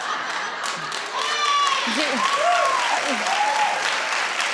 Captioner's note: audience cheering